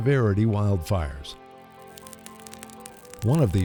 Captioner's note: fire crackling sound